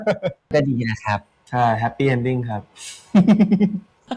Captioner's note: in Thai